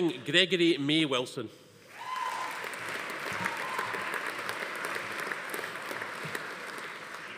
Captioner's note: attendee cheering; audience applauding